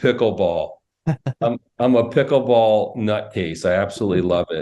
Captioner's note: laughs